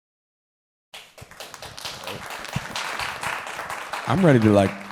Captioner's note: applause